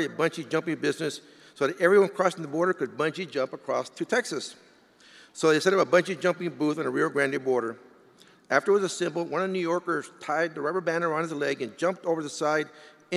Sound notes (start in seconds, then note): none